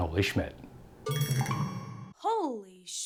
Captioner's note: loud ringing